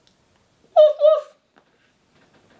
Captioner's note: imitating dog barking